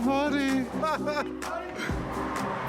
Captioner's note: laughs